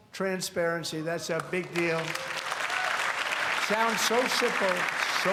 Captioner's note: applause